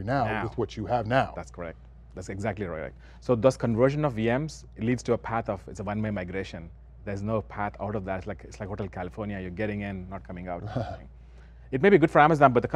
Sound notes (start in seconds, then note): 10.6 laughs